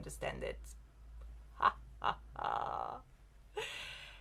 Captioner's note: laugh